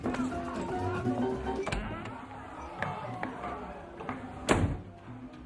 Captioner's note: patrons chatter; upbeat music; door clatters; patrons chatter